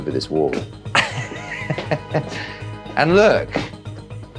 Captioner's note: laughs